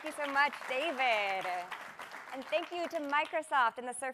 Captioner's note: cheers and applause